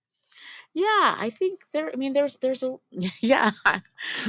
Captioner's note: laughs